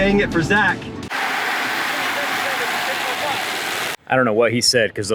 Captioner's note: car screeching